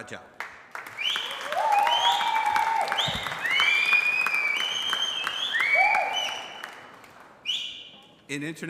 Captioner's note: applause